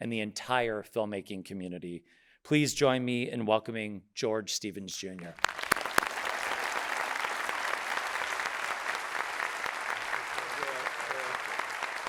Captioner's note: audience applauding